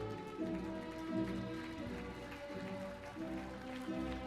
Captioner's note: audience clapping